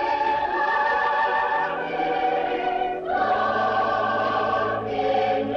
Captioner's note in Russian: none